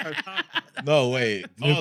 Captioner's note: laughing